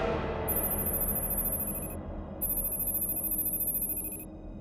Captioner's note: electronic beeping